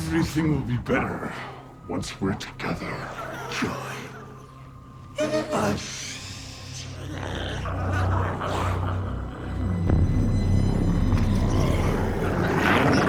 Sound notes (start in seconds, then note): 7.6 glowzies growling; 10.4 intense music